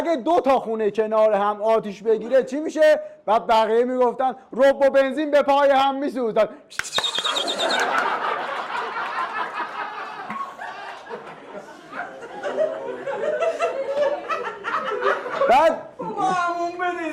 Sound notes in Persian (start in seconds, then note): 9.9 خنده